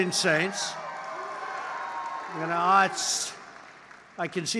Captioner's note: applause